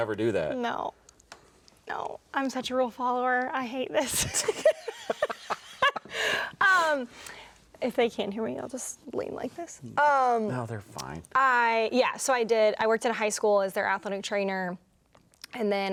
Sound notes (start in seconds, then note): 4.1 both laugh